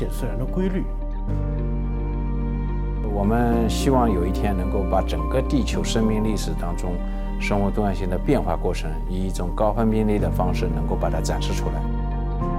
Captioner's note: speaking Chinese